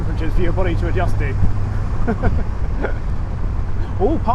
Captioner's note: laughs